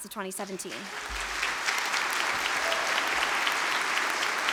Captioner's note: audience applause